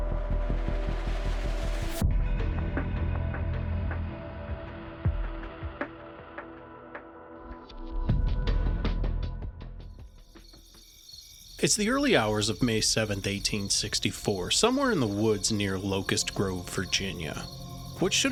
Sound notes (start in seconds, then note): 10.6 insects chirping